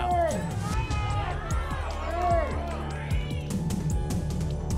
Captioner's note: audience shouting numbers